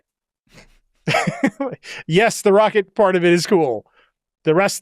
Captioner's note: laughs